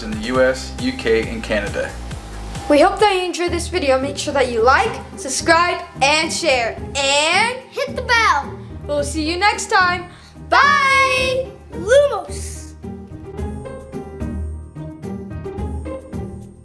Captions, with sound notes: in the U.S., U.K. and Canada. - We hope that you enjoyed this video. Make sure that like, subscribe and share, and. - Hit the bell! - We'll see you next time! - [In Unison] Bye! - Lumos! (happy music)